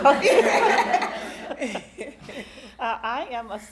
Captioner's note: all laughing